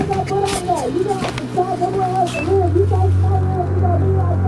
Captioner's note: muffled yelling; ominous music